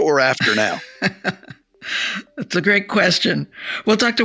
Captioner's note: laughs